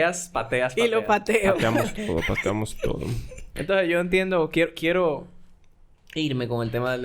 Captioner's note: laughs